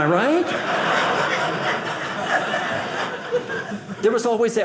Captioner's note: audience laughing